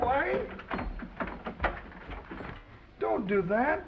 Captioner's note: door unlatching